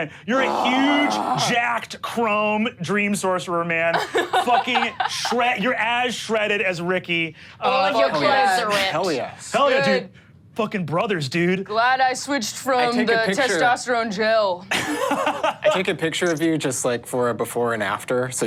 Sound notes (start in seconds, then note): 14.8 laughs